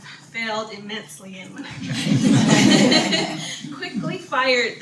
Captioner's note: audience laughter